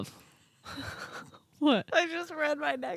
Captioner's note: laughing